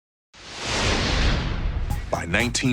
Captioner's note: intense whooshing